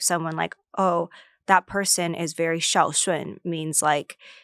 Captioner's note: speaks foreign language